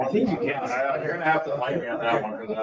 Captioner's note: speaking faintly